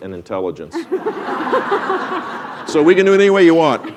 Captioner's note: laugher